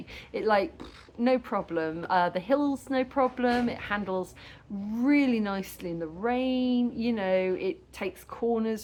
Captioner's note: pff